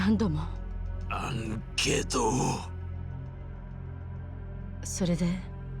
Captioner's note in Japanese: 鼻息